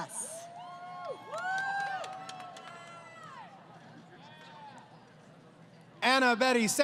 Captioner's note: crowd Cheering